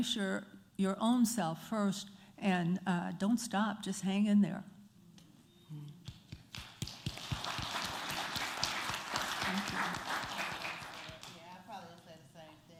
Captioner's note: applause